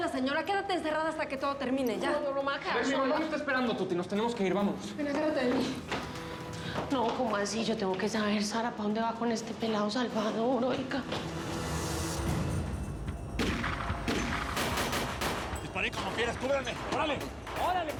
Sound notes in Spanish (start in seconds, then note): 13.4 sigue el intenso tiroteo